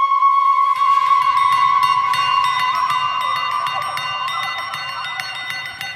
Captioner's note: rhythmic bells chiming